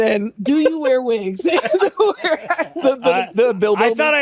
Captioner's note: laughter